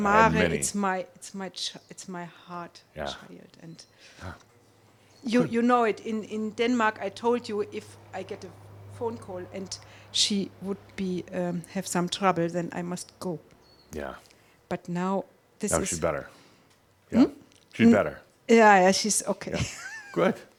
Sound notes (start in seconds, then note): 19.5 she chuckles